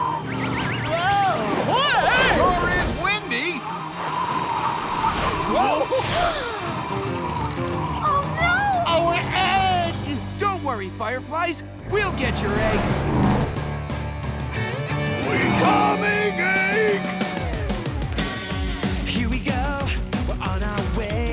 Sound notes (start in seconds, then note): 5.7 gasps